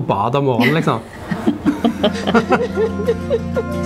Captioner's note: laughter